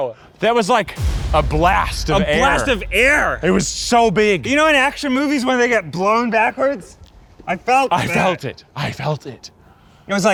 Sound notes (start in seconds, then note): 0.8 concussion explosion booming